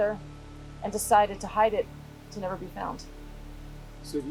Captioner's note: none